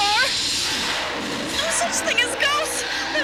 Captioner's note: thunder